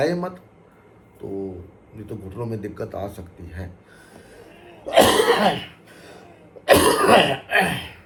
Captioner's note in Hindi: खांसने की आवाज़; गला साफ़ करने की आवाज़